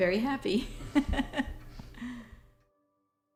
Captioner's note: laugh